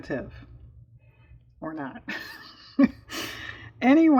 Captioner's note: laughing